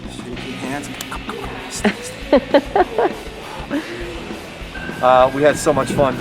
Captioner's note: laughing